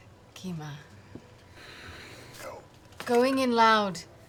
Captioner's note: frustrated sigh